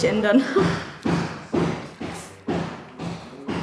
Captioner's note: loud knocking